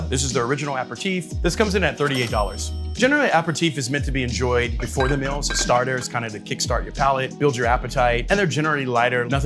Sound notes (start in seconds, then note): 2.0 register bell rings; 4.8 bottles clanging